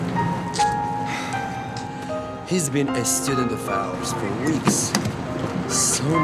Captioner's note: sighs